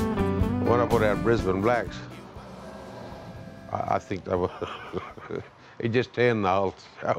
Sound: laughs

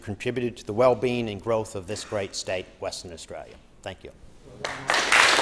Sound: applause

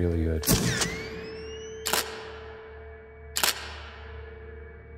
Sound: camera shuttering

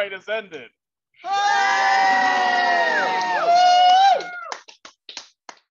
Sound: cheers

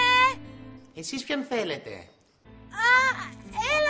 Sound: mockingly

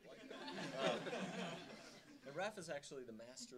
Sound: audience laughing

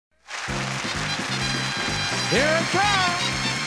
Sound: applause, theme music

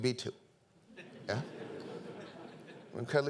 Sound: audience laughing

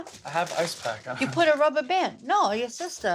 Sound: laughs

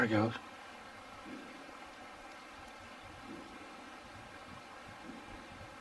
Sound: distant knocking

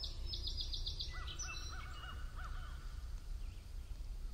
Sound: birds chirping

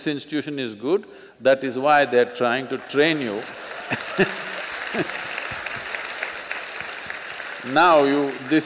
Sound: applause; laughs

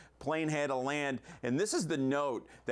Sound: none

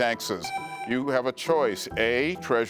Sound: buzzer beeps

